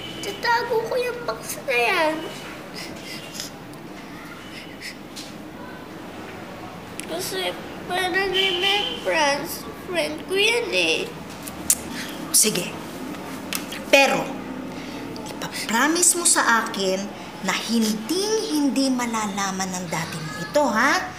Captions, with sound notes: I'll keep it in a box. [sniffling] As a remembrance. This is my friend. [clicks tongue] Fine. But you have to promise me that your daddy will never, ever find out about this, okay?